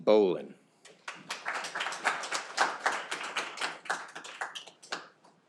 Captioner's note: audience applauding